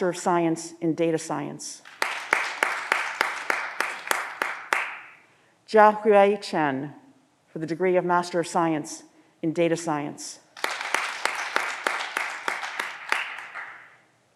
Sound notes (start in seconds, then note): 1.8 audience applause; 10.6 audience applause